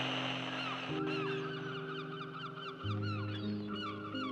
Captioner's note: static hissing; birds calling